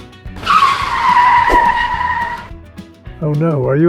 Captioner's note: screeching tires